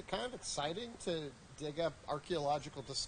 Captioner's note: voiceover